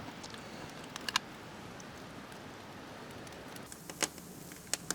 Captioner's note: fire crackling